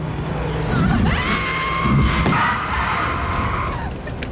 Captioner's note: screaming; ominous music